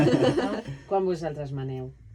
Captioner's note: laughing